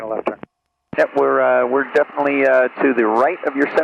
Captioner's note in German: über Flugsicherungsfrequenz